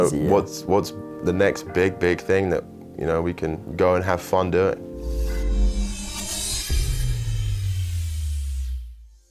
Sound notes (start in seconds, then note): 4.9 dramatic electronic tone